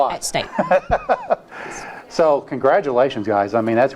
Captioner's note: laughs